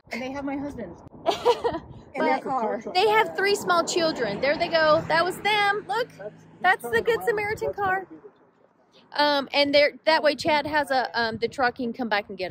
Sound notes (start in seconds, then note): 1.2 laughs